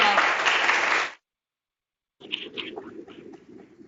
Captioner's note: applause